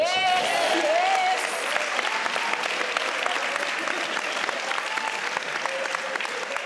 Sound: clapping

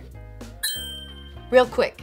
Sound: ding

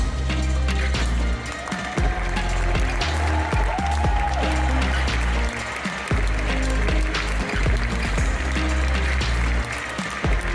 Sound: audience "oooooohs"; applause; ♫ Midtempo guitar music ♫

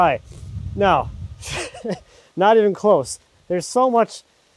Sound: chuckles

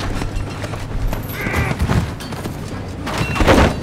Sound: Kyle growls

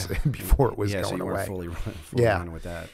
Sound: chuckle

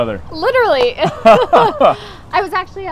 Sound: both laughing

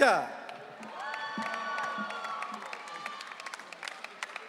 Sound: audience cheering

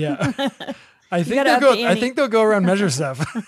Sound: laughs

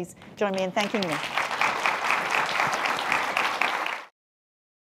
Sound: applause

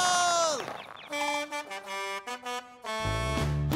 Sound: honking

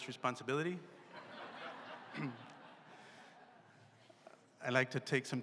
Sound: laughter

